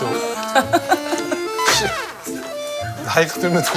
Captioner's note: tsk Tsk